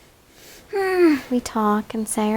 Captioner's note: moans